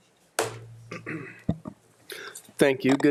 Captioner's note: clearing throat